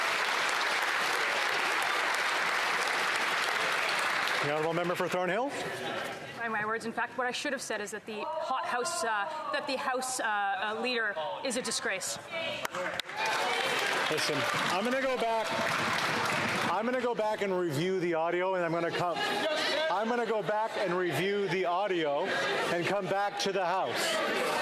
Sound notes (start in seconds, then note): 3.0 some Applause